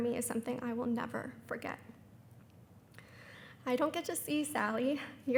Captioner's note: none